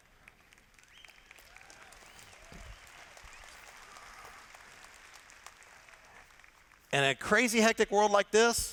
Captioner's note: applause